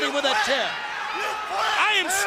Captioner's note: crowd cheering